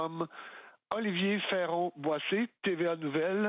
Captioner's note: speaking French